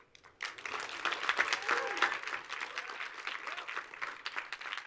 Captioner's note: audience applauds